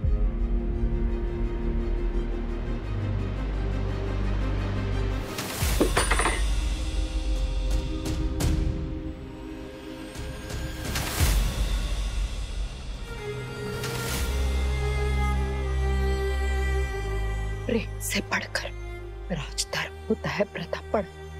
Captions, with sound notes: [clanging] [sentimental music] Royal duty is above love, Pratap.